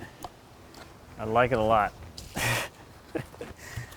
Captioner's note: laughs